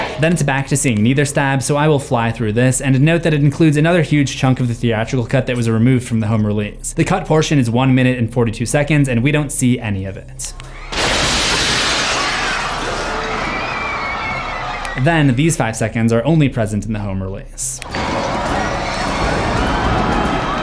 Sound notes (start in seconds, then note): 10.9 glass shatters; 12.3 screams